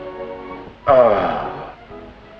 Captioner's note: sighs